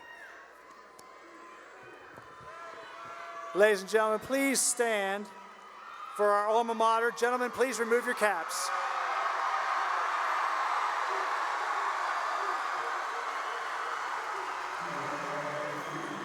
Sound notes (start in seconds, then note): 0.0 cheering; 9.9 cheering